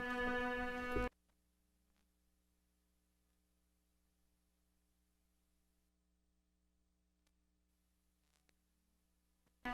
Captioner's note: audio cuts out; cello continues